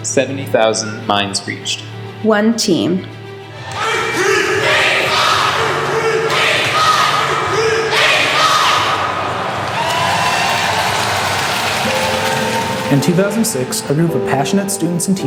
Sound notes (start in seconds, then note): 4.8 crowd; 10.0 crowd cheering